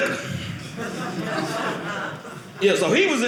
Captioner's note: audience laughing